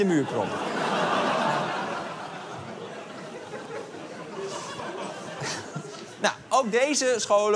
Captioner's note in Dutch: Gelach